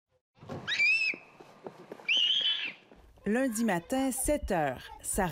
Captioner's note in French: cris d'enfants